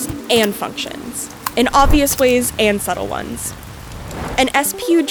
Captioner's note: rain sound